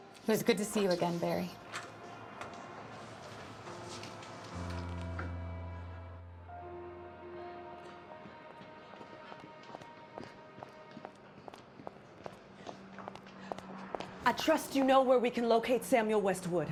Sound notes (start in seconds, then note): 8.2 footsteps tapping; 8.5 Eleanor panting